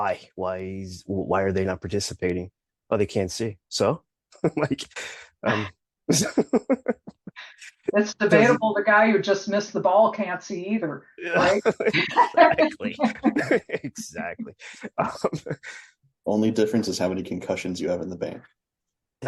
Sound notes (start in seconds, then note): 6.1 laughs; 11.3 laughter